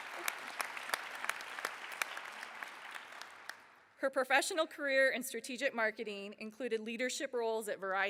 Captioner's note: applause